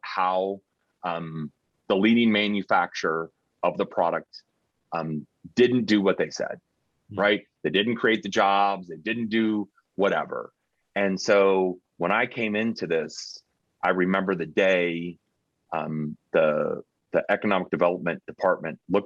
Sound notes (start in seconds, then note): none